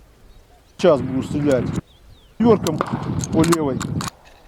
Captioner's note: wind noises failed to translate